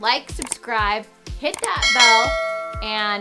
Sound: bell rings

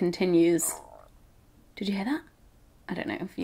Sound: gurgling

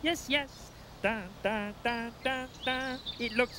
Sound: humming

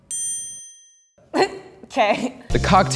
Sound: laughs

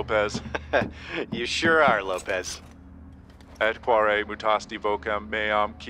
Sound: chuckles

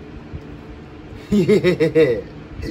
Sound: Ella giggles

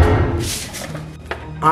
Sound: paper rustling

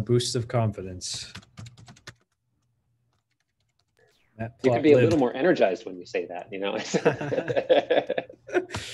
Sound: laughs

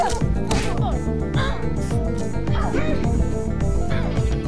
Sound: smacking

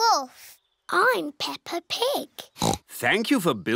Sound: oinks

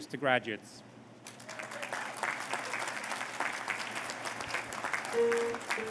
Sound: applause

